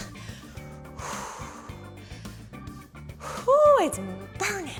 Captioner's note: exhales